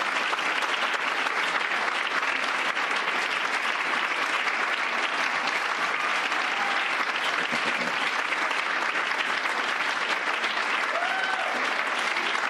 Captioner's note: cheers and applause